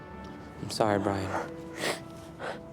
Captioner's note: brian sobs